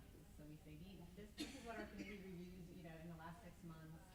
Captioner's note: coughing drowns out speaking